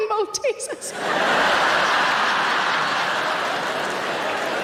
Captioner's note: audience laughing